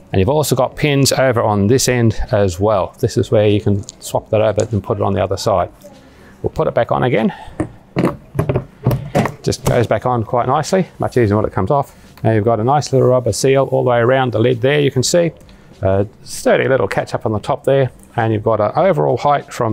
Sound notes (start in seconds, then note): 8.9 snapping lid back into place